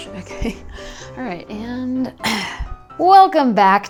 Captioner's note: clears throat